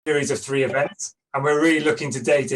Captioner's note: clipped Speech